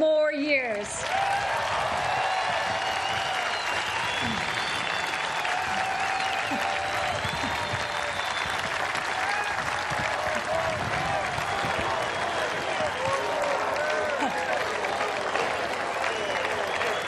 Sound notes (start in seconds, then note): 5.5 cheers and applause